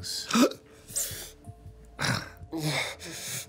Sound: gasps

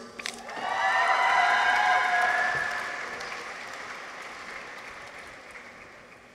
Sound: people cheer; audience applauds

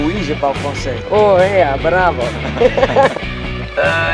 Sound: laughs

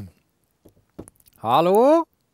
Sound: knocks on the door

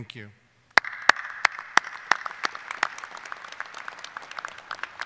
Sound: audience applauding

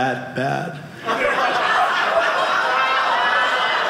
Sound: audience laughing

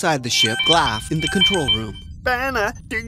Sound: electronic Ringing

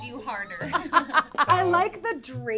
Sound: laughing

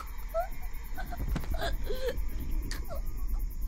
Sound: Allie chokes

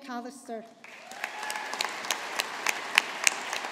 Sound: audience applauding

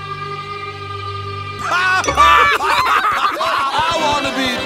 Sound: laughing

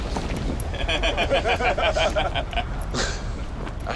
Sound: all laughing

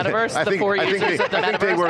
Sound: laughs

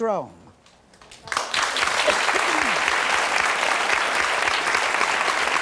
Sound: audience applauding

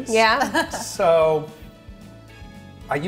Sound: laughs

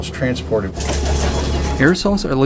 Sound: bus doors open

